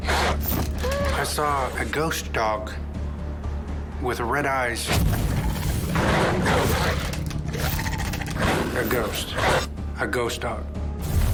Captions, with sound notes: (growling) I saw a ghost dog... with red eyes. (snarling & growling) A ghost, a ghost dog.